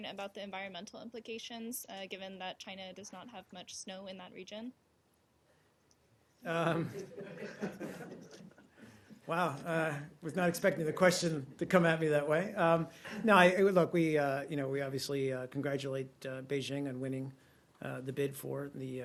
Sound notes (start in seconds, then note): 6.7 laughter